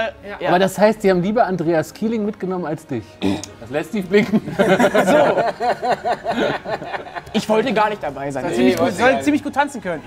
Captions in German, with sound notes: Das heißt, sie haben lieber Andreas Kieling mitgenommen als dich. Lässt tief blicken. (Lachen) Ach so. Ich wollte gar nicht dabei sein. - Soll ziemlich gut tanzen können.